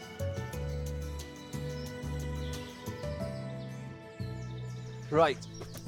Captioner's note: birds chirping